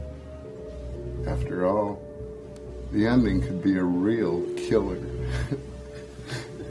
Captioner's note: laughs